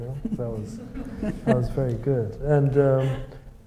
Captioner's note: audience laughs